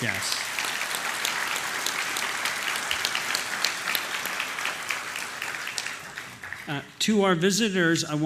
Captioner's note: applause